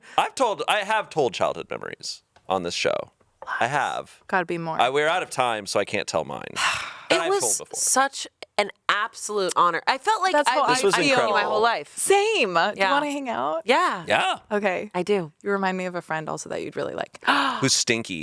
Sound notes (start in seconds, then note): 6.6 Anna sighs; 17.2 gasps